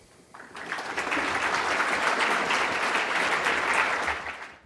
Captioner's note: applause